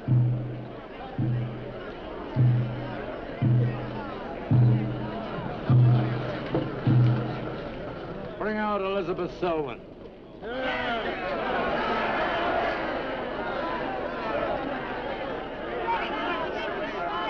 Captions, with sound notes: - Bring out Elizabeth Selwyn. - [Crowd] Yeah. (crowd yelling)